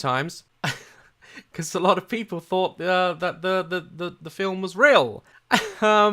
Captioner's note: chuckle; exhales